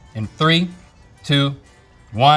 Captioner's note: none